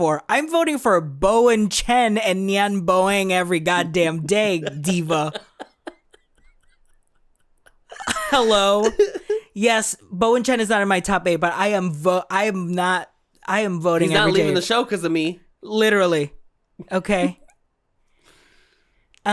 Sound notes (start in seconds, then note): 4.4 delighted cackle